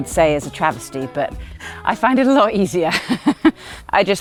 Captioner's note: laughs